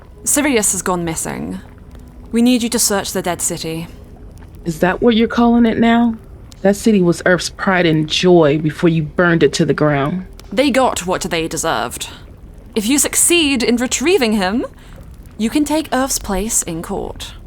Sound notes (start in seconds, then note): 4.9 scoff